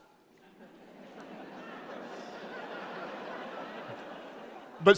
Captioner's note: audience laughs